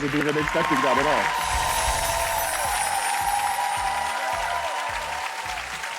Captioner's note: audience applauding